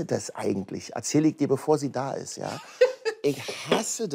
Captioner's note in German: Lachen